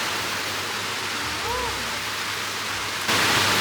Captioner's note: mmm